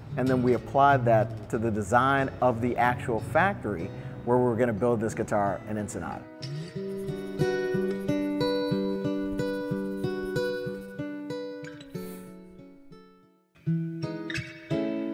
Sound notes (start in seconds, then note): 6.7 scribbling; 7.2 gentle guitar music